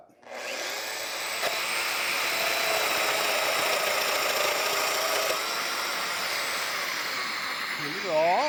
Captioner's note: cutter whirring